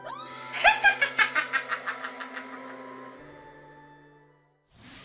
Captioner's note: witch laugh